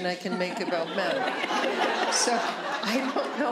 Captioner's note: laughter